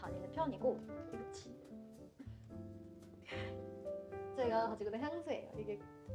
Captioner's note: deep breath